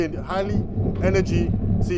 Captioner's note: wind blowing